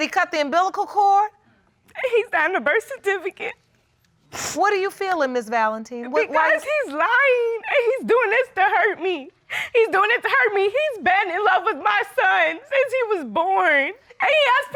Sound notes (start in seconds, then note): 2.0 crying